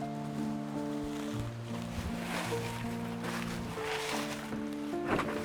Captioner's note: sound of walking through leaves